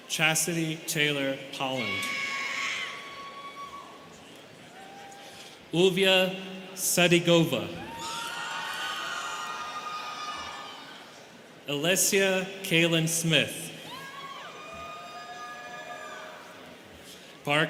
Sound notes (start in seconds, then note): 1.7 students cheering; 7.8 students cheering; 13.8 students cheering